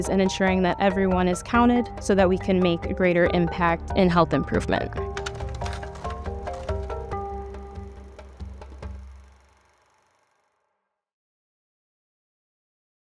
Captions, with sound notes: in ensuring that everyone is counted so that we can make a greater impact in health improvement. (graphics clicking) (inquisitive music)